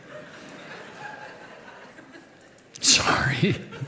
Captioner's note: audience laughs